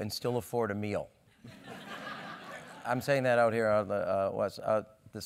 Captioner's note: laugh